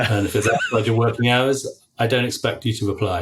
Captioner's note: laughing